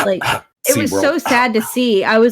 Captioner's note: faux cough